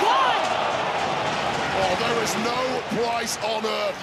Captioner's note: audience cheering